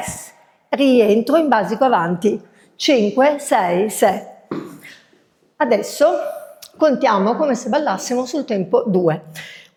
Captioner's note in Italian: schiarire la voce